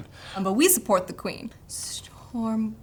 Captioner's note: stammers